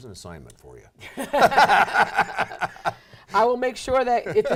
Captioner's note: laughing